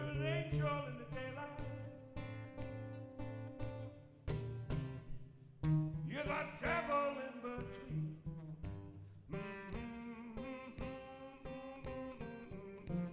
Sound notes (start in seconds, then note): 9.7 humming